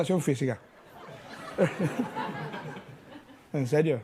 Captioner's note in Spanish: Risas